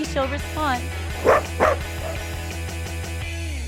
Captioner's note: barking